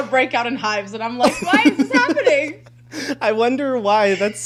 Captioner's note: both laughing